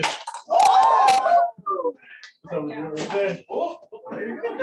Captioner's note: shouting